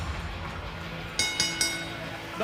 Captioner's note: bell ringing